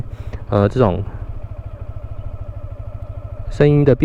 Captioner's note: engine sound